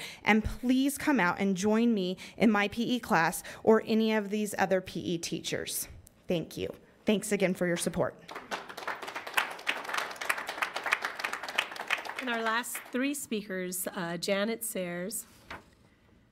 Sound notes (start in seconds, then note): 8.2 audience applauds